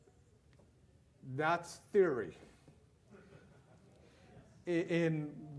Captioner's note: loud laughter